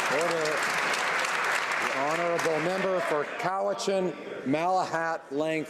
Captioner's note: some Applause